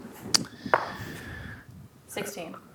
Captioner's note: dice rolling